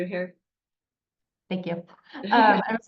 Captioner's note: laughing